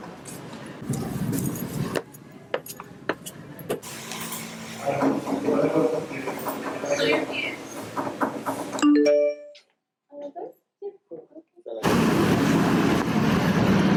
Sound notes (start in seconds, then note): 0.8 steps; 8.8 notification sound